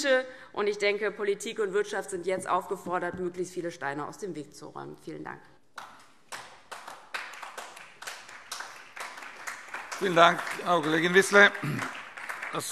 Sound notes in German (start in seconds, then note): 6.2 Beifall DIE LINKE und vereinzelt SPD